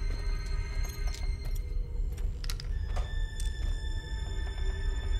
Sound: none

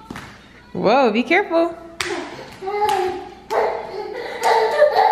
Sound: excited yells

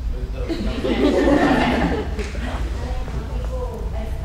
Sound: audience laughing

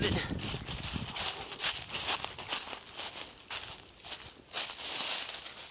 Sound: leaves crunching

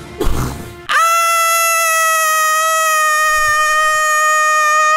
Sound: screaming

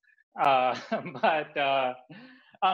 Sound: chuckles

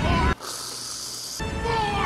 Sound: whipped cream spurting

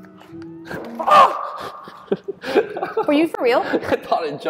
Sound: yell

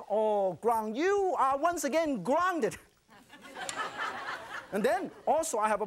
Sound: laughter; crowd

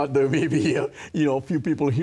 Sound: chuckles

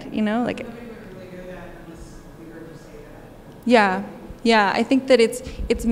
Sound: speaker speaking faintly

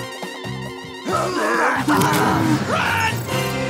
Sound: exclaiming

